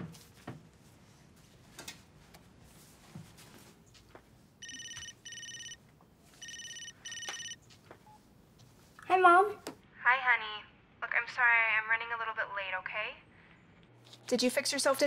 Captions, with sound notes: [cell phone rings] -Hey Mom. -Hi honey. Look, I'm sorry I'm running a little bit late. Okay? Did you fix yourself dinner yet?